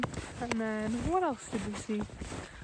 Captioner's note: none